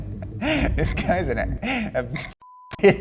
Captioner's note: beep